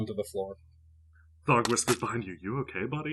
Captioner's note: Thog whispers behind you